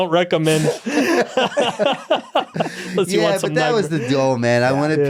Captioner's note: group laughing